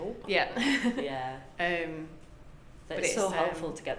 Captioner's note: laughs